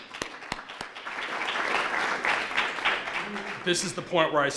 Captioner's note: applauds; applause